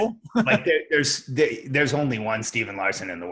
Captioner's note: laughs